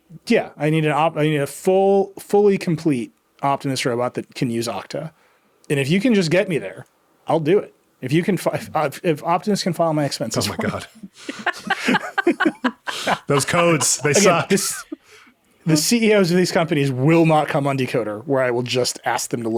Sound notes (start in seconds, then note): 10.3 laughing